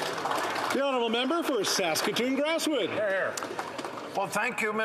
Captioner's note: applause